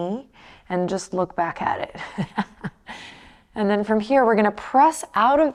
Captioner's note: laughs